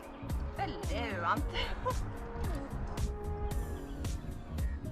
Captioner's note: chuckles